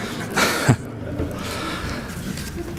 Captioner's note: laughter